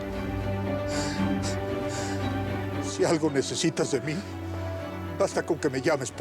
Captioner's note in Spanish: sollozos